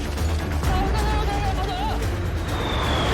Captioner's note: soldier talks into radio in foreign language